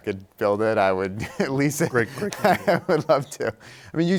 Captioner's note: laughs